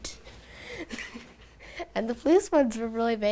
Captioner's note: laughs